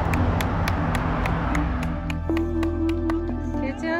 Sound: engines roar; crowd applauds

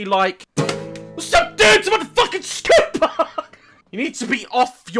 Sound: guitar; laughs

